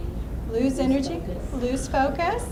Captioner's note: voiceover